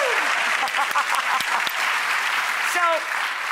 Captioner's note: Rachel laughs and claps; audience applauds